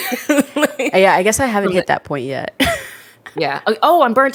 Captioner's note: laughs; laughs